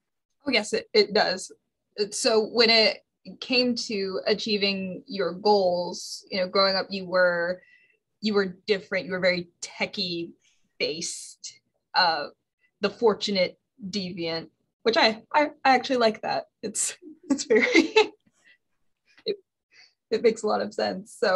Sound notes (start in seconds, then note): 16.0 laughs